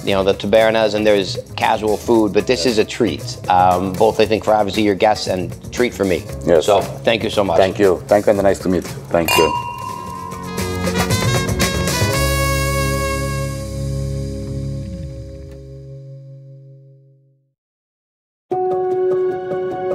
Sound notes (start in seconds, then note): 9.2 glasses clink; 11.4 upbeat music